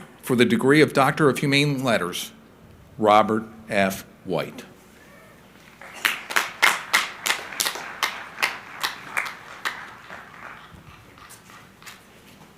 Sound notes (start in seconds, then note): 5.6 crowd applauding